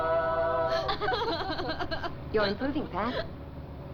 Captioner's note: laughing